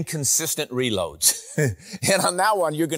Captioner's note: laughs